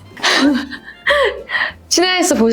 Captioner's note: suddenly bursting into laughter?